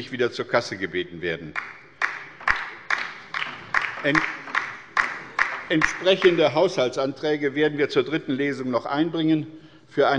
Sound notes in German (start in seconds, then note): 1.5 Beifall bei der LINKEN